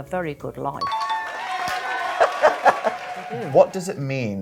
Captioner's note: crowd cheering; laughing